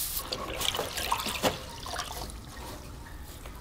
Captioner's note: water rippling